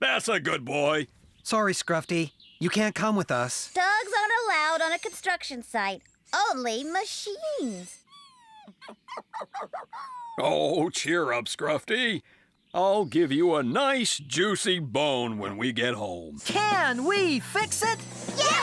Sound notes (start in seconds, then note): 8.6 disappointed Whining